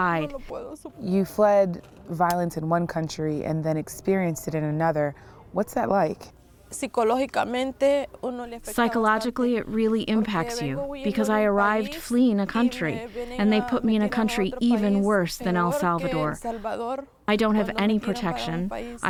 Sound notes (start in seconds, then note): 7.8 through translator